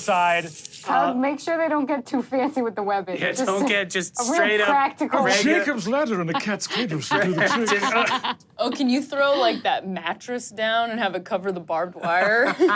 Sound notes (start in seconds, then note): 6.3 laughter; 12.5 laughs